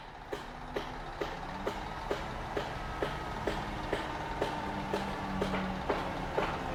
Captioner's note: heavy machinery operating; hammer thumping